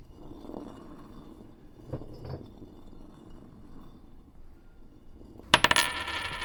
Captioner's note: sound of a dragging chain; coin drops, diabolical laughter